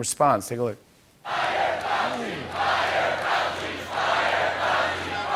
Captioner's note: Crowd chants "Fire Fauci "; chanting continues